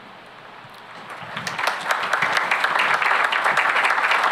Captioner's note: applause